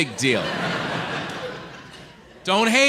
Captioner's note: audience laughs